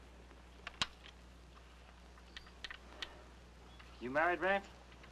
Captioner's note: gun clicking